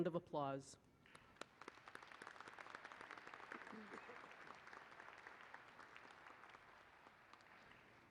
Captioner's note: applause